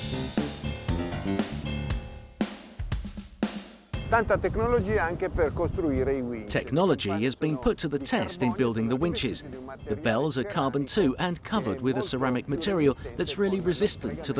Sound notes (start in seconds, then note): 0.0 upbeat music; 4.4 speaking foreign language